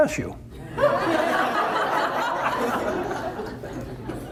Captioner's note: audience laughter